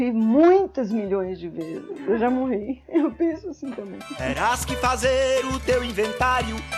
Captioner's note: laughs